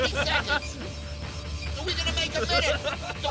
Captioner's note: laughs